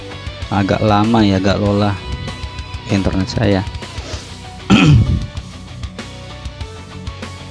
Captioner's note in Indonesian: berdehem